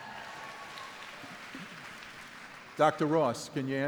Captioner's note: crowd applauding